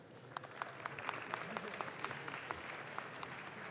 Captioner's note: audience claps